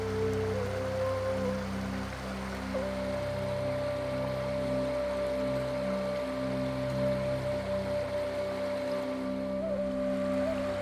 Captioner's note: water sounds